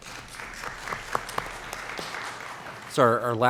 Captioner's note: applause